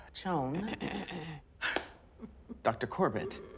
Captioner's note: throat clear